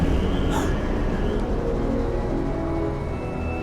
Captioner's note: gasping